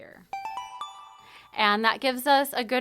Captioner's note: chime